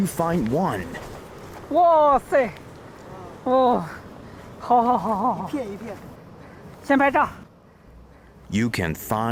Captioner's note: speaking Chinese